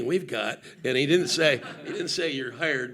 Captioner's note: audience laughing